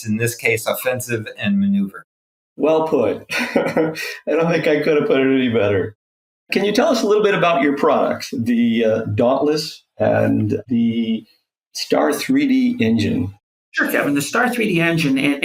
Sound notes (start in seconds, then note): 3.2 laughs